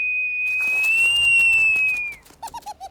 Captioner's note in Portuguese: bater de asas